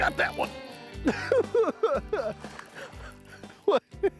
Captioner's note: cackling